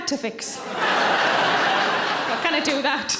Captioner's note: audience laughing